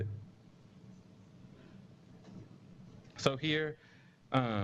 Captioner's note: pause